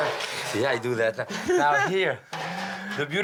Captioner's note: laughs